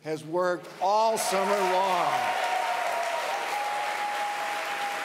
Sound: audience applauds

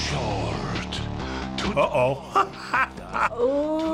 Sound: laughs

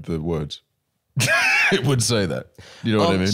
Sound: laughs

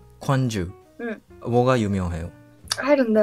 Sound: Korean

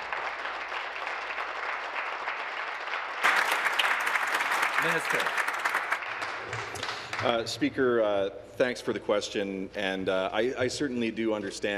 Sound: applause

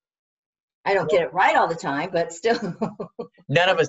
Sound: laughs

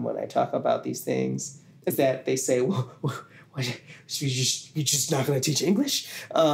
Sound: in a humorous exasperated tone

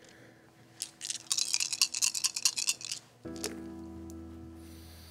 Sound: dice rattling

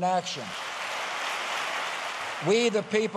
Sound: applause

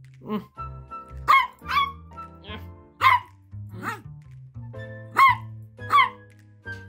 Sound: bark

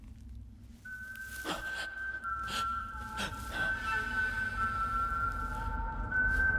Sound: suspenseful music; eerie whistling

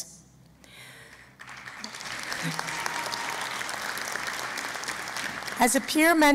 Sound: applause

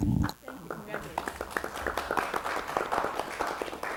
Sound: scattered applause

